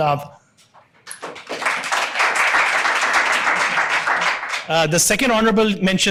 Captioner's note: audience applauding